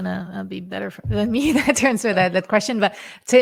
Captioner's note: laughs